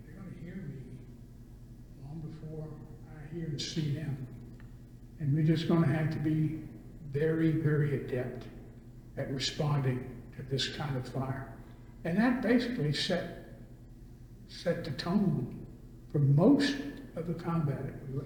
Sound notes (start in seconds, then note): none